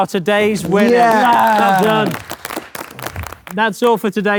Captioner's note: group cheering